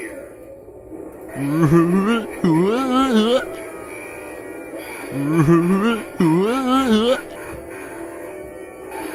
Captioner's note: Harry laughing while Yellow Face makes weird noises